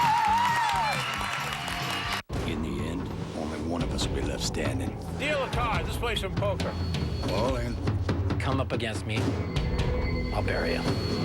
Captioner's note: audience applauding